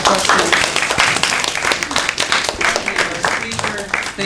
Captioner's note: applause